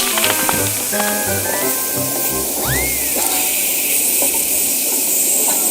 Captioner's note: brake pipe air hissing